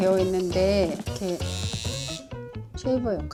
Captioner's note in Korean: 위이잉